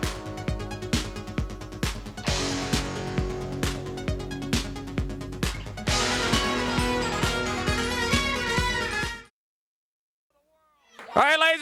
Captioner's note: crowd cheering